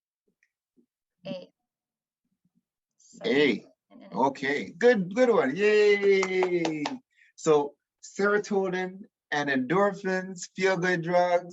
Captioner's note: claps